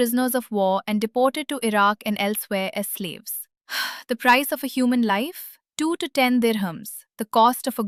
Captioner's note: exhales